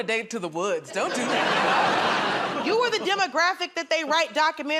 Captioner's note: laughter